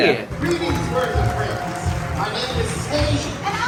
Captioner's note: audience clapping